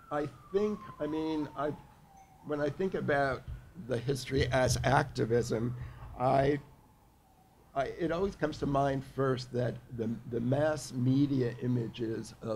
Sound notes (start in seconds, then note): none